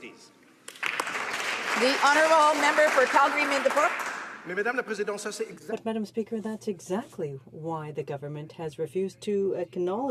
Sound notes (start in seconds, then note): 4.5 some Applause